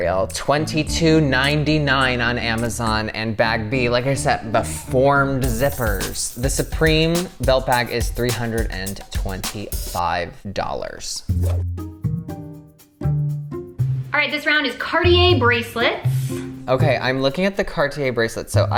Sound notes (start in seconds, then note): 11.2 inquisitive music; 11.4 whoosh